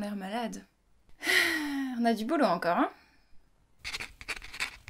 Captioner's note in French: Soupir